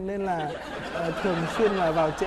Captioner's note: laughing